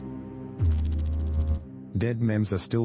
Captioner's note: electrical noise